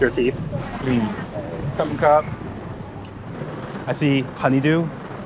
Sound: speaking foreign language

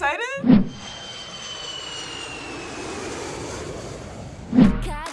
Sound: airplane engine roars

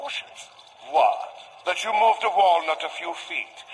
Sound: sarcastically

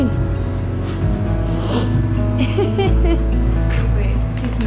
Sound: snort; laughter

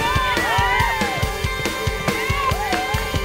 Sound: cheering

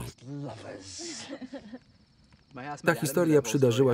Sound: laughter

